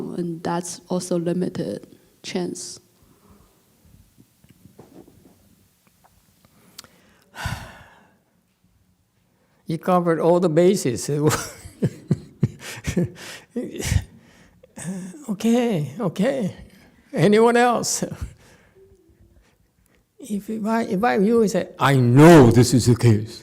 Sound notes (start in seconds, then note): 7.3 sighs; 14.2 laughs